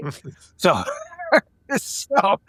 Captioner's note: laughing